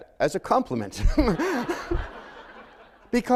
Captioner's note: laughter